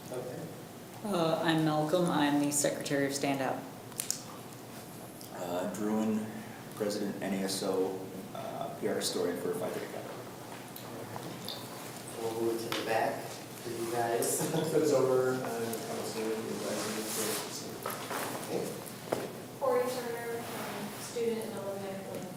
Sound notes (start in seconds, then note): 18.1 speaks softly